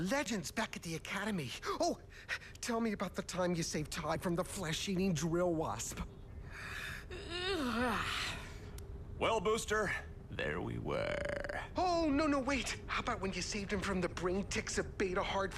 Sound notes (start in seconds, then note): 6.6 yawns